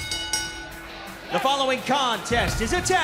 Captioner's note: bell